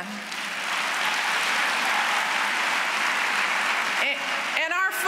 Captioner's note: applause